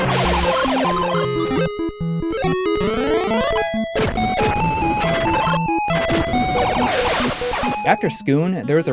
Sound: game audio

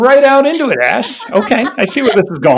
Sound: laughs

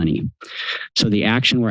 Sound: inhales

